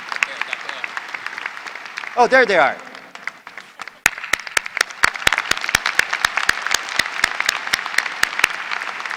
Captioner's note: applause